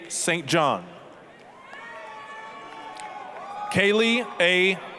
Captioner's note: applause, cheering